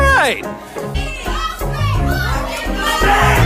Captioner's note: audience shouting names